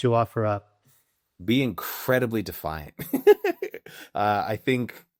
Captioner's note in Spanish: Riendo